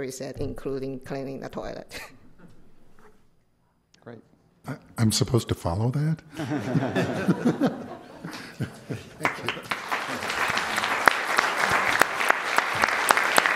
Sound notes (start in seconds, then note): 4.9 applause; 6.3 laughter